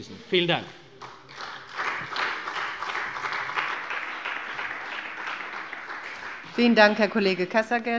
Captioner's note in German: Beifall bei der CDU und dem BÜNDNIS 90/DIE GRÜNEN